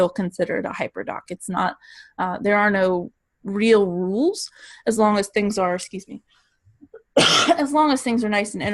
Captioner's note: coughs